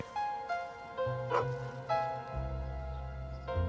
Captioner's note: dog barking